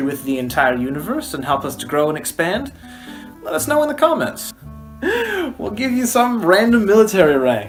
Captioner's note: laughing